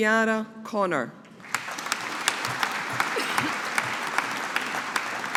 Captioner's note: audience applauding